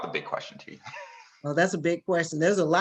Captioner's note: laugh